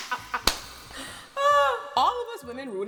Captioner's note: laughing; sighing